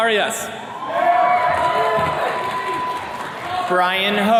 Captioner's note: attendees cheering